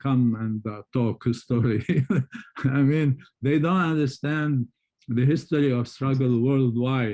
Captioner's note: laughs